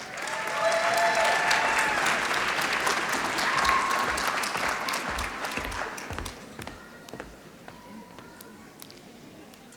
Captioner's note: applause